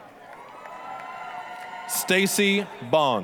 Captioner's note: applause, cheering